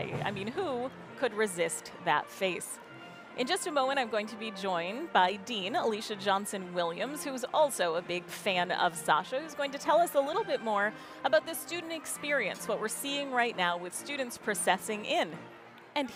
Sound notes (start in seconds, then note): none